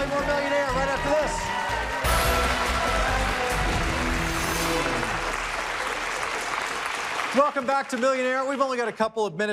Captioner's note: applause